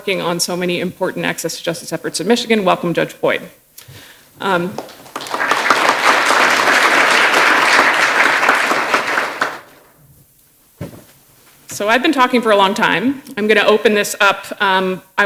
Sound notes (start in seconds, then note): 4.7 applause